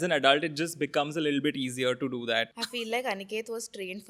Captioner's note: laughs